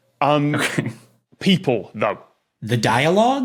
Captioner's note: snickers